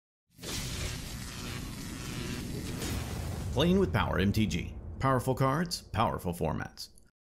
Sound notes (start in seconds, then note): 0.4 electricity crackling